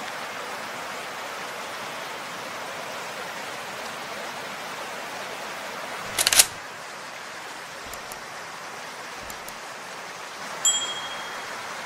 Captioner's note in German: Fließendes Wasser